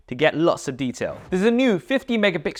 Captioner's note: air whooshes